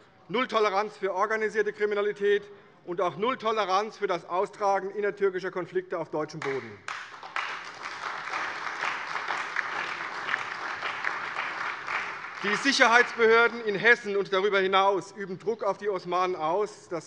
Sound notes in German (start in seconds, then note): 6.4 Beifall bei der CDU und dem BÜNDNIS 90/DIE GRÜNEN